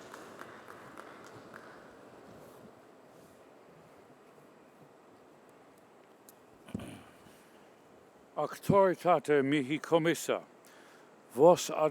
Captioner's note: applause